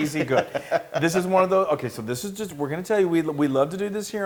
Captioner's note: laugh